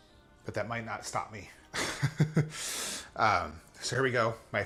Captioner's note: laughs